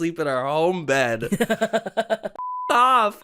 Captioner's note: laughing